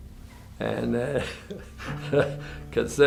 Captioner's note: laughs